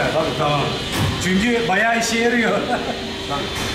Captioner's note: laughs